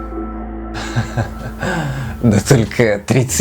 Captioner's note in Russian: смеётся с дьяволинкой